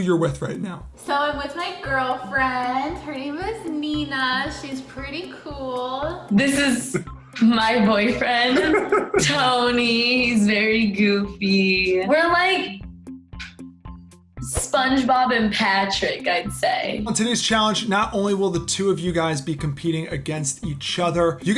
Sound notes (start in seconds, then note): 7.4 laughs